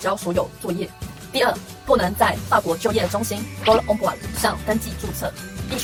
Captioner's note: in french